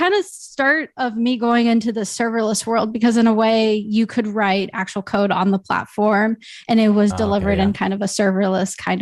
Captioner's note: audio cutting out